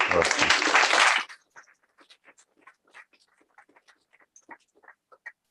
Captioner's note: applause